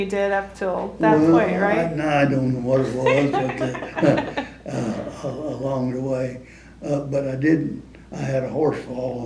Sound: laughter

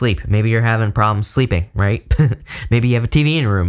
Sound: laughs

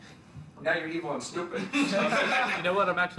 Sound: laughs

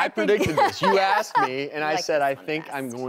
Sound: laughing

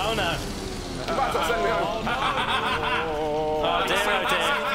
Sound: shouting

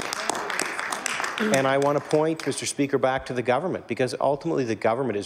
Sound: applause

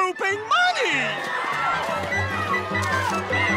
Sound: screaming

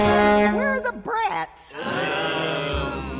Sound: honks horn

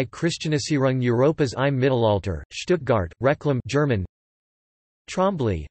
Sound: German

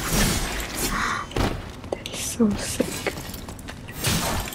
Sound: gasps

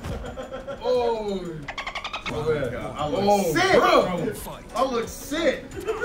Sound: laugh

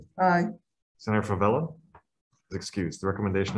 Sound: silence

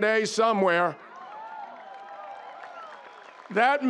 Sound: audience applauding; audience cheering

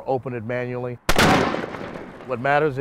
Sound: shot

